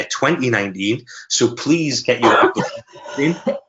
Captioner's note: coughing